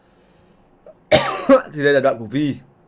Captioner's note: cOugHs